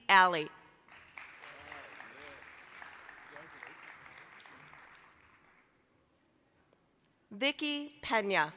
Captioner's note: applause